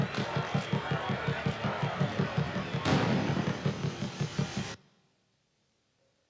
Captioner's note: crowd yelling; dramatic music